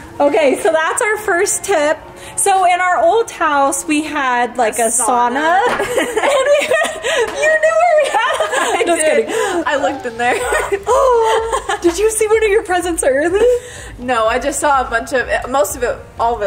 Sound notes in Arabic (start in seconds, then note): 5.6 كلاهما يضحك; 10.8 تلهث